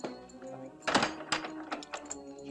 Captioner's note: lock rattling